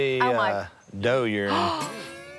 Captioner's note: gasps